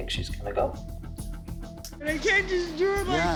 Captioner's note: sobbing